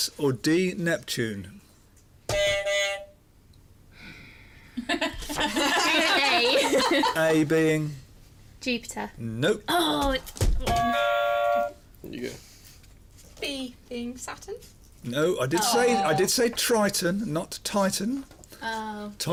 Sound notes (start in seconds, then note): 2.3 buzzer; 3.9 inhales deeply; 4.8 laughter; 10.6 buzzer